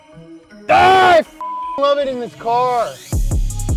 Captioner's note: beep; upbeat music